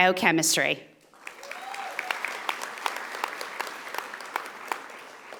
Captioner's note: audience applauding